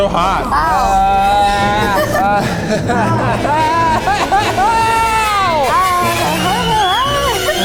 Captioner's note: crying